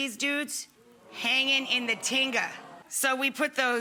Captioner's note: audience oos